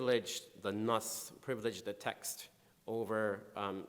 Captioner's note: speaking in foreign language